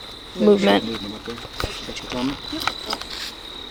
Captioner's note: crickets